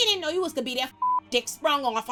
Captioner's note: beep